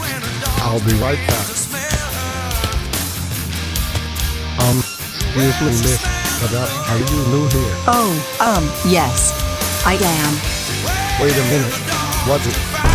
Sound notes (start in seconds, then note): 0.0 footsteps; 7.8 disguised voice